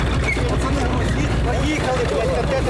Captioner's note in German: Stimmengewirr